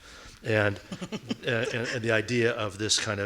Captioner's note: laughing